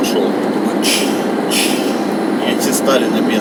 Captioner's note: hissing